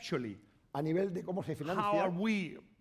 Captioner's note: speaking spanish